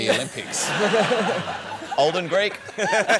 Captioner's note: laughter